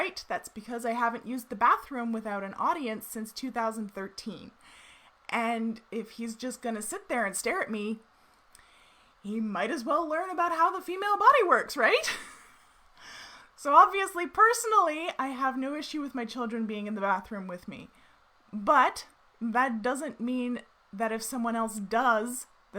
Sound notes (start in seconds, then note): 12.0 chuckles